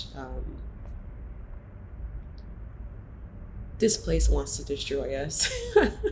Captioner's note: laughs